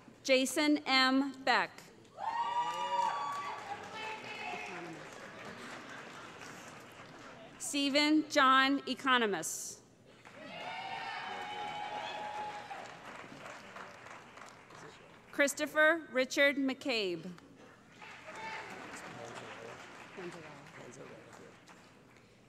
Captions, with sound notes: Jason M. Beck [ Cheering, laughter ] Steven John Economos [ Cheering ] Christopher Richard McCabe [ Applause ]